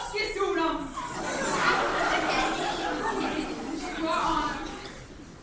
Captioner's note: crowd murmuring